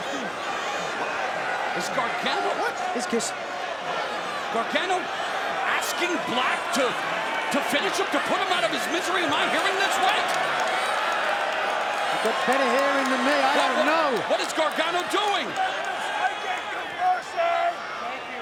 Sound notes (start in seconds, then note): 10.7 crowd cheering